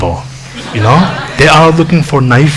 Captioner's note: laughing